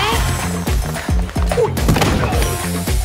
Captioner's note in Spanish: gemidos